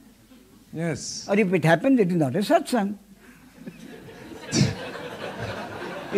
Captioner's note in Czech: smích